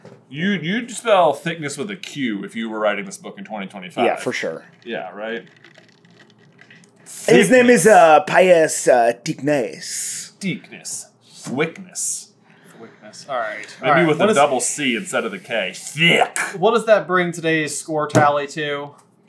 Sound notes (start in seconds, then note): 7.9 French